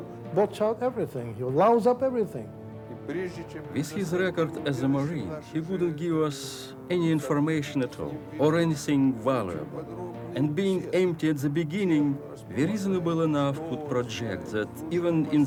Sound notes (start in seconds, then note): 6.1 speaks in foreign language